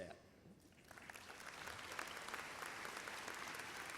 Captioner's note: applause